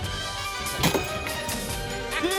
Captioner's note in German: Caprice spuckt; lachen